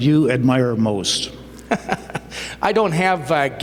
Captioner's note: laughter